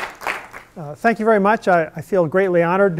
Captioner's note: applause